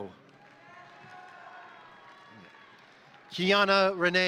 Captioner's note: crowd applauding; crowd cheering